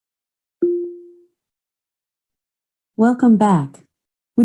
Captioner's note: electronic beep